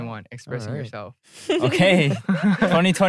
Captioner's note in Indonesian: tertawa